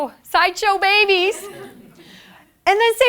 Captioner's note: laughter